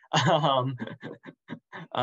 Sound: chuckles

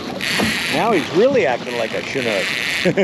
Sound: reel spinning

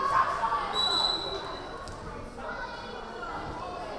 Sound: whistle blaring

